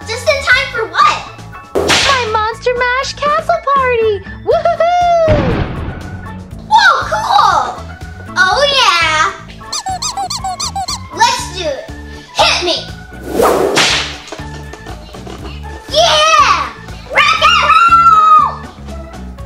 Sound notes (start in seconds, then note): 9.6 comical squeaking; 13.2 whip cracking; 14.5 upbeat music